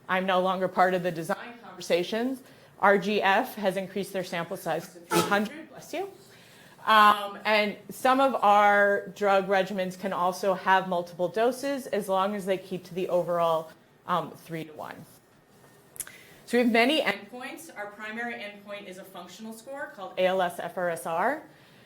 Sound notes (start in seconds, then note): 5.1 someone sneezes